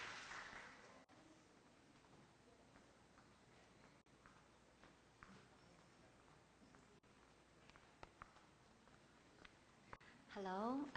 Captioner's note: applause; silence